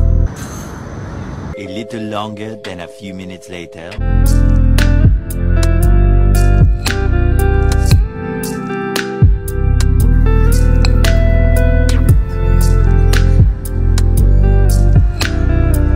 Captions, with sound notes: [audible sigh] A little longer than a few minutes later